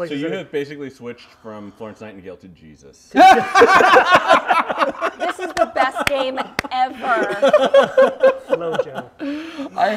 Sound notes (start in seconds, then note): 3.1 laughter